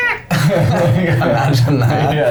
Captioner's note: laughing